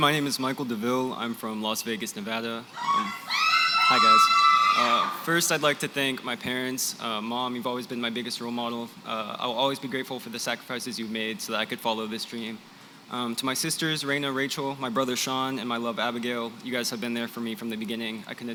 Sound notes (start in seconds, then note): 2.7 cheering